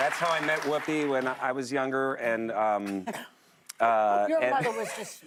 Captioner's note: applause